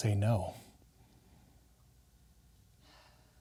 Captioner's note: sighs